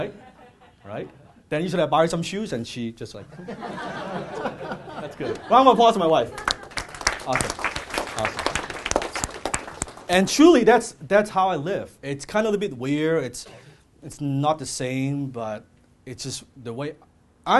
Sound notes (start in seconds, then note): 3.3 audience laughs; 6.0 audience claps